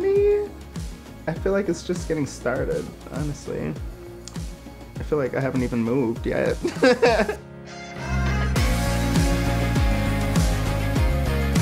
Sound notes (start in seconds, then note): 6.6 laughing; 8.9 upbeat music